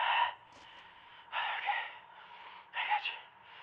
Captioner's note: out of breath